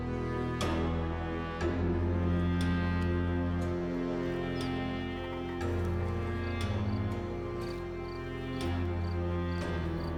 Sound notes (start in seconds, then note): 3.8 crickets chirping